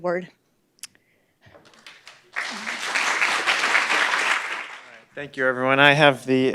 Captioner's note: applause